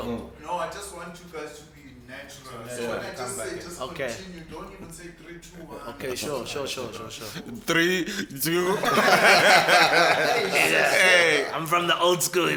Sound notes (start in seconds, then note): 8.6 everybody laughs